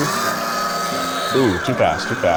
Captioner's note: food processor whirring